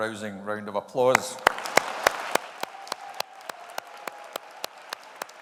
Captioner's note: audience applauding